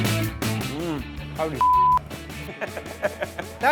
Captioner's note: fast rock music; beep